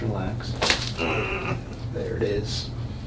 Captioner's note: patient grunting